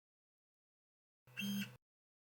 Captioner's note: buzz